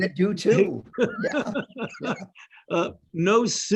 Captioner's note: laughing